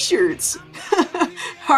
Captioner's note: strained laugh